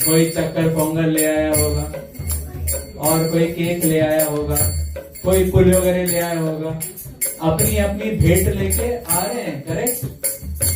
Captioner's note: bell